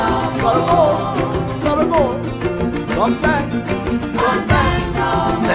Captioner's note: man speaks in foreign language